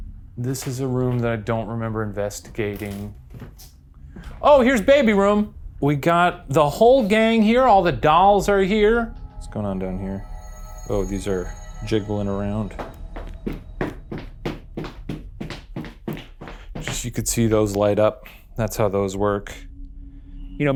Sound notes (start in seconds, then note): 10.3 eerie music; 12.6 stamps